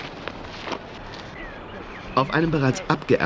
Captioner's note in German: Arbeitsgeräusche